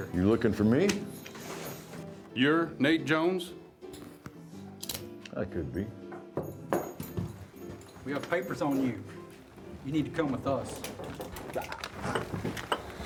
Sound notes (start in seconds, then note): 4.8 gun cocking; 10.9 guns cocking